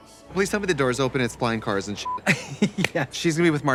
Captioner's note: beep